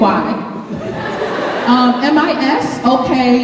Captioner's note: laughter